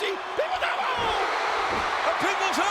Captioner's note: spectators cheering